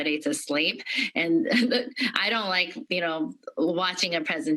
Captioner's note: laughter